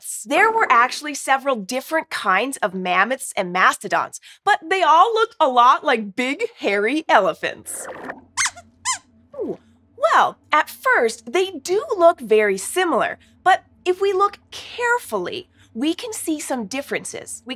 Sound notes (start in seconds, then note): 7.9 squeaks squeaks